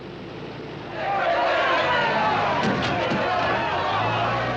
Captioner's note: prisoners Cheering